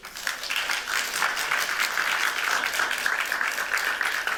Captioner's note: applause